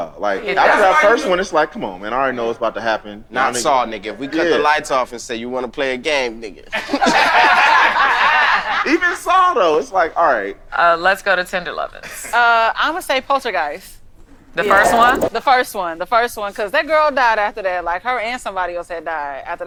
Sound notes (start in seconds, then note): 6.7 group laughs